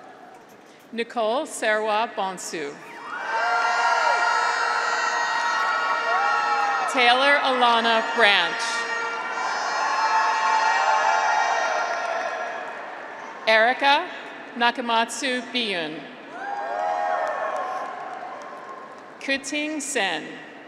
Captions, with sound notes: (graduates cheer) Nicole Serwaa Bonsu. (graduates cheer) (horns honking) Taylor Alana Branch. (graduates cheer) (horns honking) Erika Nakamatsu Byun. (graduates cheer) Keting Cen.